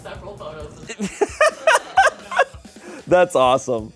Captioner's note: laughs